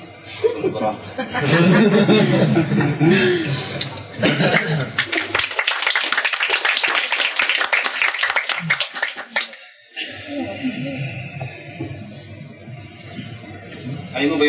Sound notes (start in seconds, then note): 1.9 applause